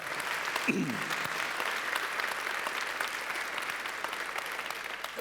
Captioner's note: applause